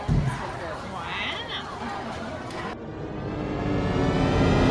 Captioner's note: THX Sound plays